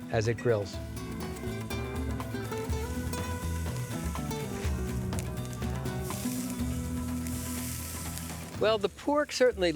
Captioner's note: sizzling